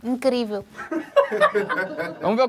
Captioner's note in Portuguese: risadas